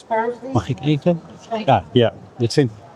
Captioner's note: speaking in foreign language